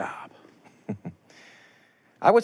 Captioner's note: chuckles